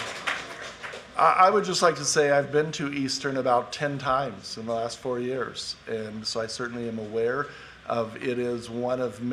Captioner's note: applause